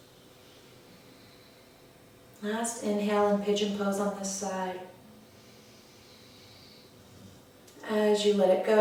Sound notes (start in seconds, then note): 5.2 audible breath